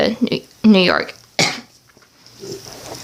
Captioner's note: coughs